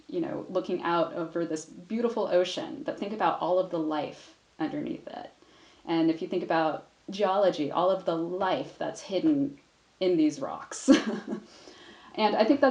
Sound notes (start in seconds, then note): 10.9 chuckles